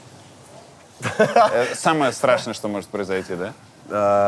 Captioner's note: laughs